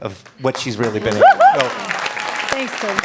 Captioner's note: applause, cheering